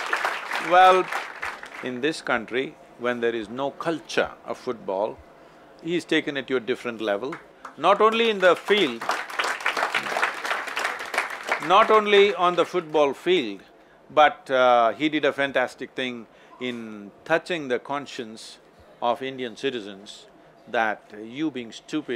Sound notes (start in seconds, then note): 7.6 applause